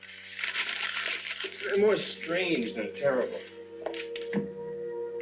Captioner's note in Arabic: ورقة مجعدة